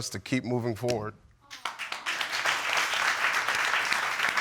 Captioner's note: audience clapping